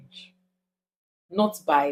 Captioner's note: paause